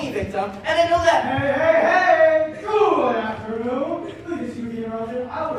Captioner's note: over intercom